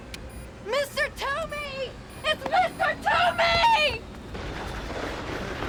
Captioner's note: beeping; Bethany Screaming